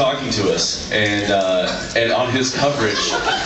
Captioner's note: laughs